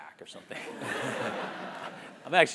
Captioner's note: laugh